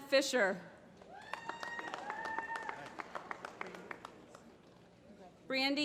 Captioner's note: applause